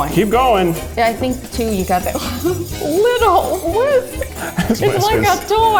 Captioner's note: laughs